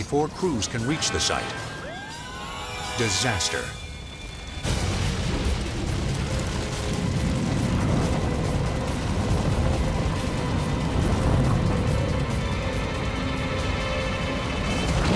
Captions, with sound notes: But before crews can reach the site, disaster. (fuel explodes) (dramatic music)